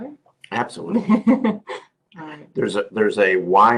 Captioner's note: laugh